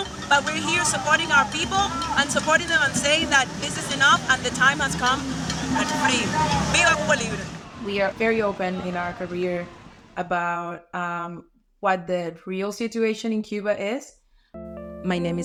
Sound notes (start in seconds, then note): 5.7 speaking Spanish; 14.5 bright music